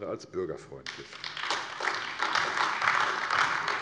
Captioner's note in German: Beifall AfD